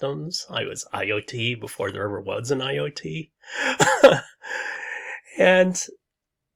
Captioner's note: laughs